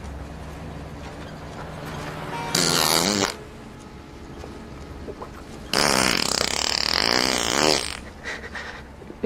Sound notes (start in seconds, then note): 2.5 unstoppable fart; 5.7 farting and whimpering